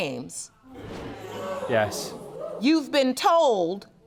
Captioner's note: audience gasps